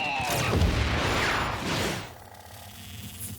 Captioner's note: fireworks whistle and explode